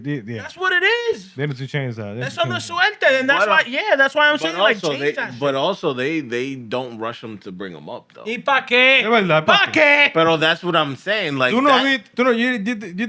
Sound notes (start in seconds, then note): 9.5 non-english Speech